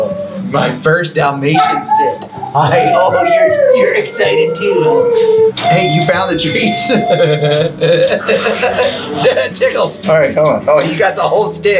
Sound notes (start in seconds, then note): 6.8 laughs